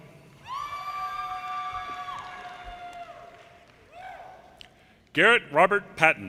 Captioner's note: audience cheers and applause